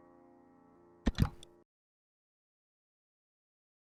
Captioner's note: click